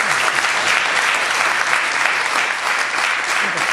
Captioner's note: applause